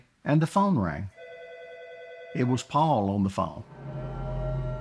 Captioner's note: phone rings